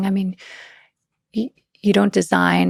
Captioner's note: none